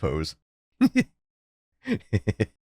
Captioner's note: dumb laugh